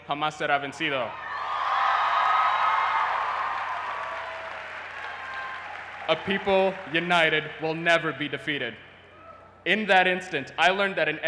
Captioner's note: cheers and applause